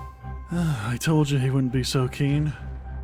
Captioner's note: tense music; sighs